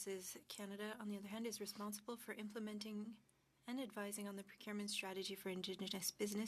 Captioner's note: speaking French